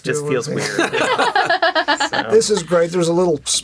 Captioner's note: laughing